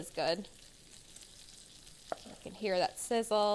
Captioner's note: bacon sizzling